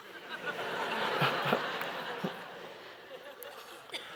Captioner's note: audience laughing